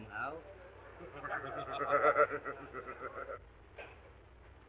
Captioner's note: members laughing